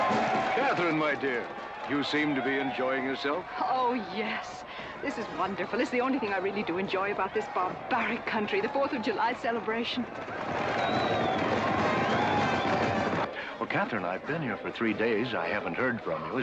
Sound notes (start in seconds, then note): 0.0 crowd cheering and hooves pounding; 10.6 horse hooves pounding and band playing